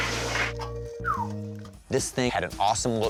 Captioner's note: whistles